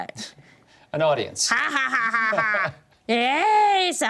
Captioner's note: laughs evilly